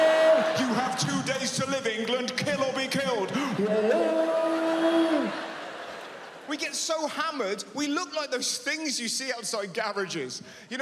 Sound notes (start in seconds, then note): 3.5 yelling quickly